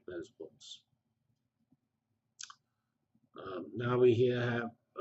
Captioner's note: pause